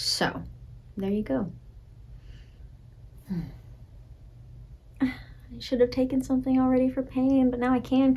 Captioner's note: groaning